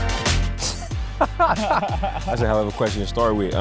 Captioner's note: laughing